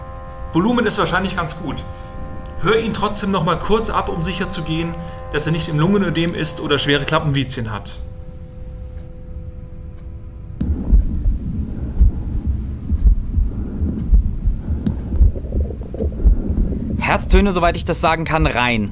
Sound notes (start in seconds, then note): 10.6 heart and breath sounds